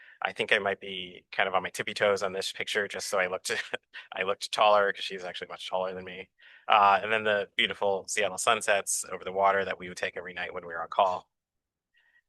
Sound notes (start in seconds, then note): 3.5 chuckles